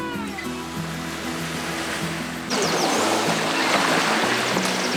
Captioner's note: waves crashing